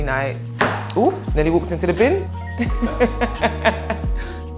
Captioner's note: laughing